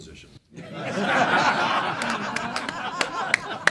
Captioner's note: laughing